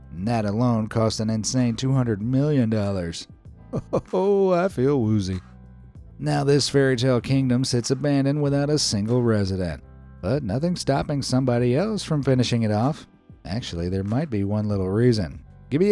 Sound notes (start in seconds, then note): 3.7 chuckles